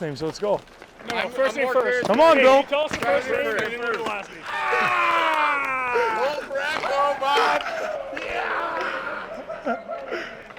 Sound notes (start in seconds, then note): 5.3 everyone laughs; 8.1 Xhekaj laughs